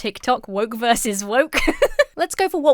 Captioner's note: laughs